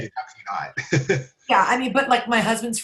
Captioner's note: laughs